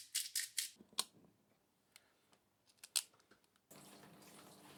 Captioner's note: tool sounds; shower